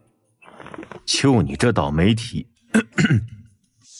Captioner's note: cough cough